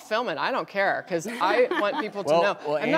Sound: audience laughing

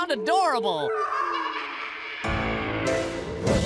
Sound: evil cackling

